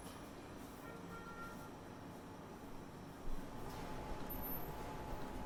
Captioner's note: distant horn honks